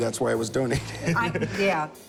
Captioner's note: laughs